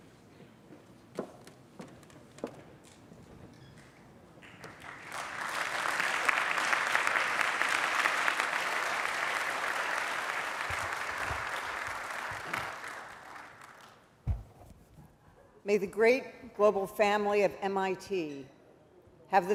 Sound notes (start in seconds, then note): 4.4 applause